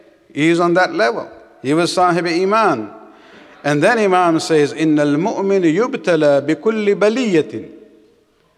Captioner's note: Arabic